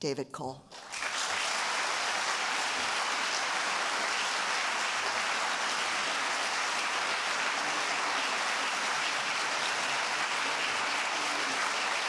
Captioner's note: applause